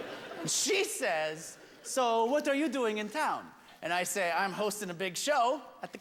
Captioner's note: French accent